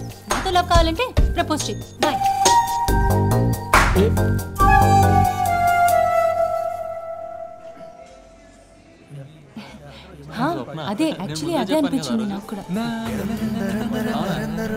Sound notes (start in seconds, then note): 10.2 indistinct chatter; 12.6 humming